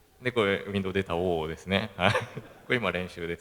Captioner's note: laugh